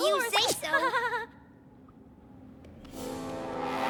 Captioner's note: laughs